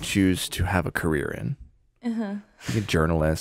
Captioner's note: laughs